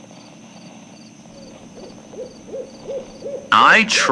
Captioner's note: owl fx